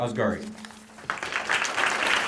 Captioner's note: applause